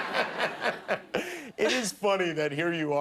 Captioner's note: laughter